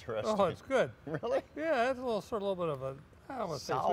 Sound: laughs

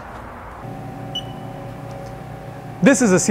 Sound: machine beeps

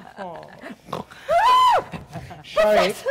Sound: Sharik softly chuckling; Sharik softly snorts; Zina loudly shrieks

